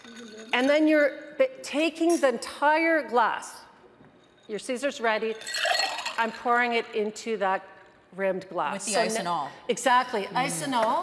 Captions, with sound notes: and then you're taking the entire glass... Your Caesar's ready. (ice clinking) I'm pouring it into that rimmed glass- With the ice and all? Exactly, ice and all.